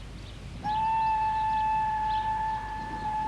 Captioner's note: train whistles